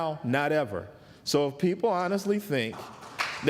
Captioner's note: applause